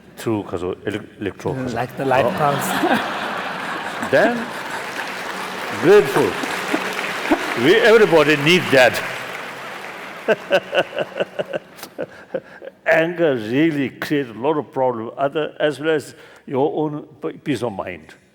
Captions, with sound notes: >> Electro light pulse. [ Laughter ] [ Applause ] >> Then dreadful. We-- Everybody need that. Anger really clears a lot of problem as well your own peace of mind.